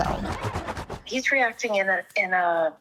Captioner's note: page flipping rapidly